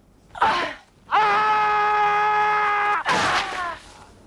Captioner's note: raider yells; sword stabs